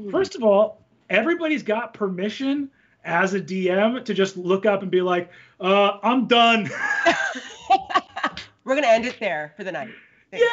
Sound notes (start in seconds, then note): 6.4 both laughing